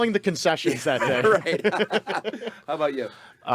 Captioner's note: group laughing